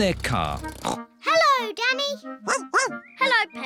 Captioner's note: snorts; barks